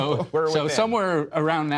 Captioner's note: laughter